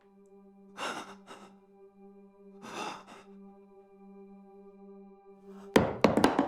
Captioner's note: Malcolm breathing heavily